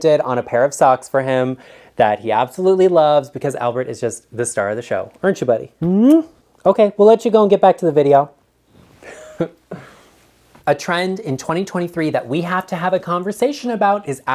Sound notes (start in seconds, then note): 5.8 smooches; 9.0 chuckles